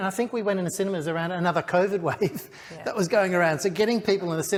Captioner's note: laughs